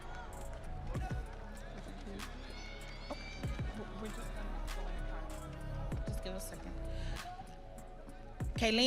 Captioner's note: audience cheering